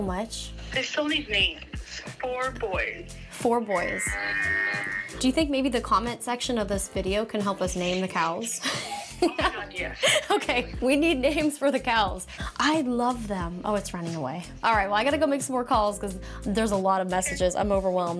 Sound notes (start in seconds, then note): 4.0 cow moos